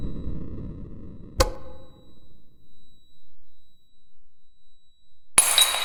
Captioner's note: light switch clicking